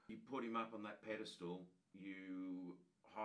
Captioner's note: none